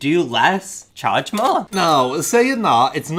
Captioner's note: chiming